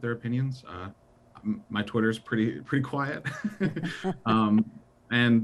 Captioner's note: chuckles